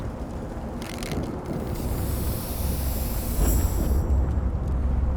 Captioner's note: wind blowing